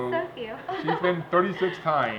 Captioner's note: laughs